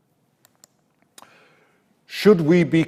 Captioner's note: mouse clicks